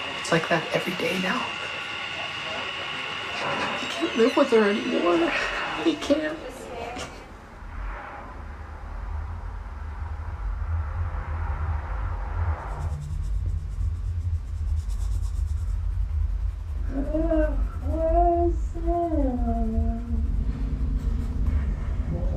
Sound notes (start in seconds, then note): 8.7 suspenseful music; 13.0 pencil scratching